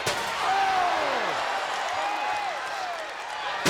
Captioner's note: trash can banging